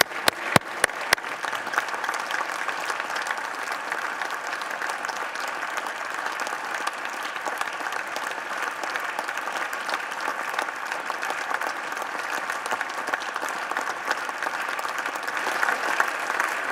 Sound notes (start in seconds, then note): 4.8 applause